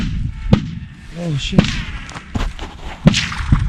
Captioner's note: gunshot